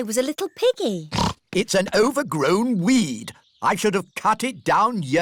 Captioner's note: snorts